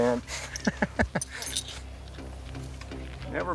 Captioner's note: chuckles